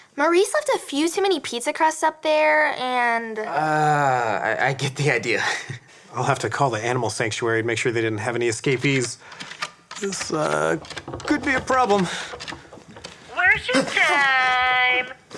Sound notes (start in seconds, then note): 10.1 scratching sounds; 13.4 computer Voice